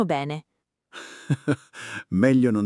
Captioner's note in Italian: Haha